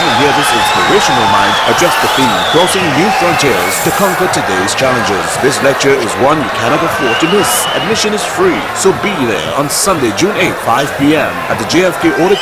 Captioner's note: wild applause and cheering for 22 seconds